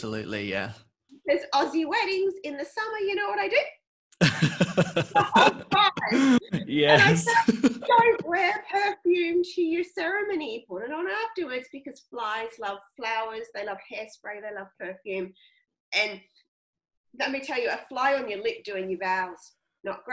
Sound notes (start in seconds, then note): 4.2 laughing